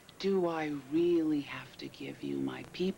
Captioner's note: none